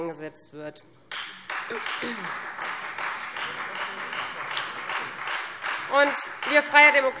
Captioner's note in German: Beifall Freie Demokraten